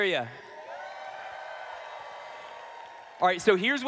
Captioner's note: shouting